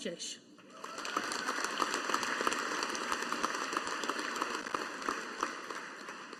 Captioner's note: audience applauding